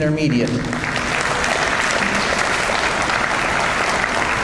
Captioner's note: audience applauds